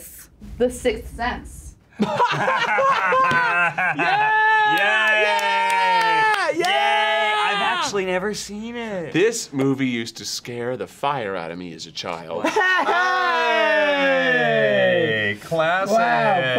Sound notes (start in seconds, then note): 0.3 drum roll; 1.9 both laugh; 12.4 laughs